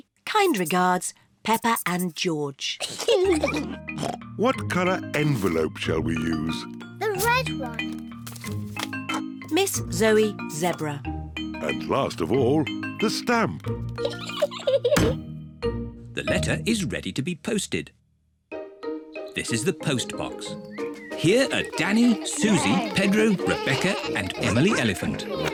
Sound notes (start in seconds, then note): 2.8 both giggle; 14.0 giggles